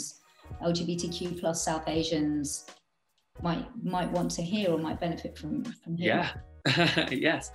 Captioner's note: laughs